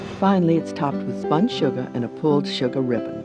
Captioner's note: voiceover